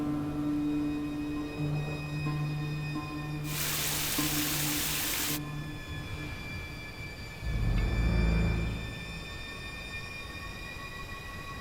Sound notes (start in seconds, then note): 3.4 shower runs; 5.4 eerie music